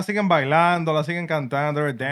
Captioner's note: speaking Spanish